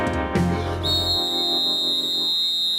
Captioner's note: whistle blowing